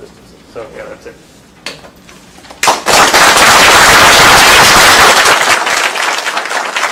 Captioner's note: applause